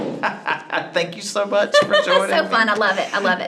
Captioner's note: laughs